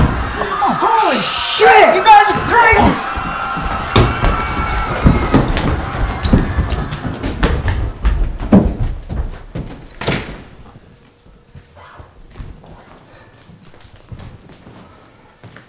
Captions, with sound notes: - Oh, shit! You guys are crazy! (crowd screams)